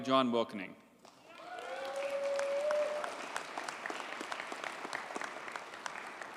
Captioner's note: audience cheers and applauds